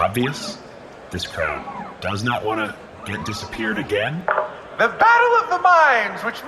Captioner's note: through megaphone